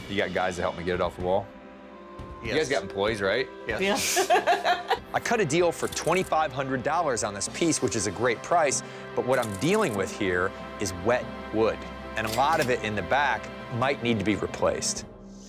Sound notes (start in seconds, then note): 3.8 laughs